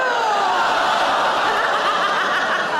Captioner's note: audience groaning; audience laughing; Sarah laughing